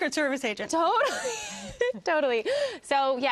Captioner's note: laughs